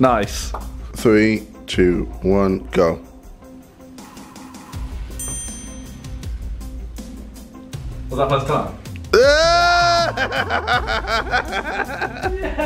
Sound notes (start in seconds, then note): 9.2 cheers